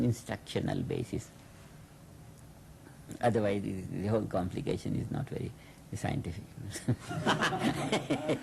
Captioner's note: laughing